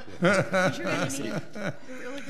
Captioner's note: people laugh